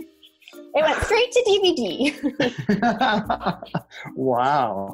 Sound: group laughs

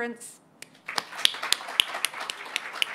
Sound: applause

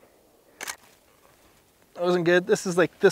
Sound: click

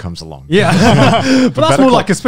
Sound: laughing

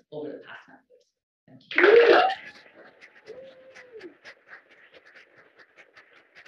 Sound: applause

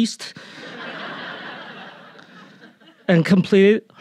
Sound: audience laughing

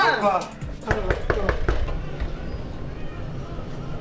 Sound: knocks

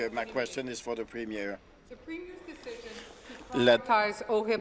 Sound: speaking in French

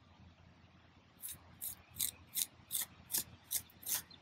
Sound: trowel scraping

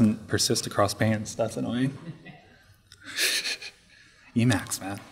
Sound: laughing

